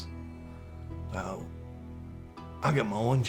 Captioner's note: scottish accent